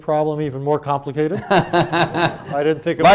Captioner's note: laughter